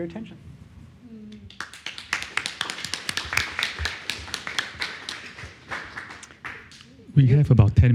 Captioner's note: applause